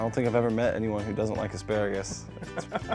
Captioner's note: laughs